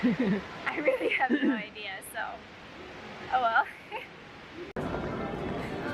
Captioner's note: laughs